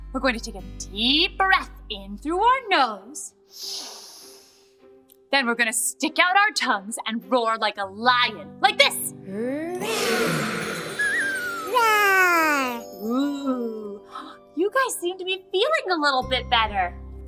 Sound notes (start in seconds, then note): 9.8 they roar